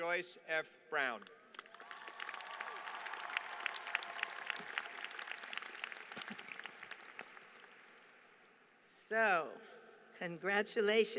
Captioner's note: applause